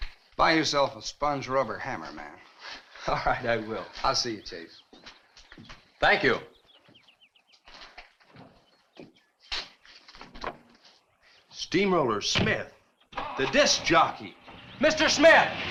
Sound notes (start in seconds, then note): 14.3 engine cranks